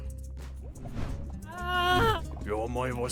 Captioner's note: woosh